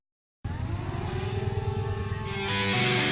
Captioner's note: sound of a drone taking off